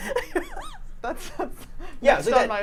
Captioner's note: laughs